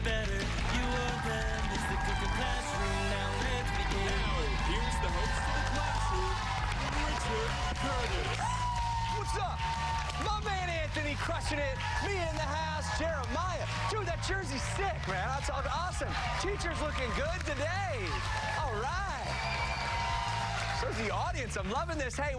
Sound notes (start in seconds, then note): 11.3 cheers and applause